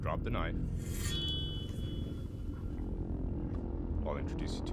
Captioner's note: blade scraps